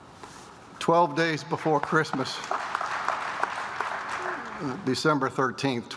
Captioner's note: applause